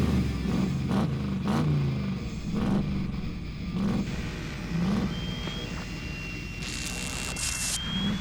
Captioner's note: loud engine acceleration; whistle